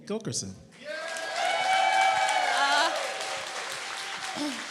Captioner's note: applause and cheering